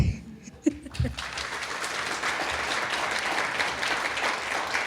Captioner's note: applause